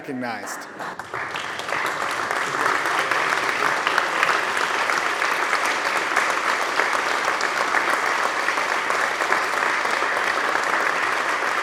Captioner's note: applause